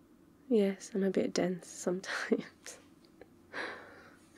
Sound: laughs

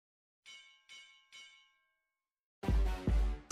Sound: bell ringing; upbeat music

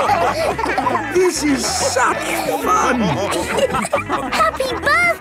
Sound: dance party music; laughing

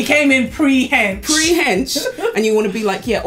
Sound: laughs

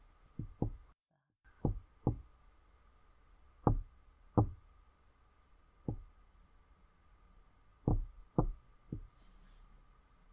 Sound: Paul knocking on glass

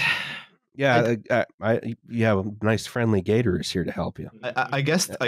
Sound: sighs; stammers; chuckles

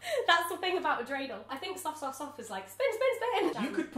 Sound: speaks in Hebrew

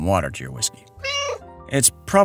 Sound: meow

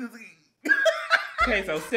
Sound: laughs

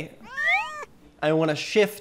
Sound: meows softly

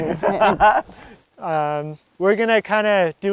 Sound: laughs

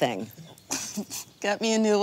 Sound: chuckling

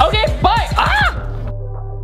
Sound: screams

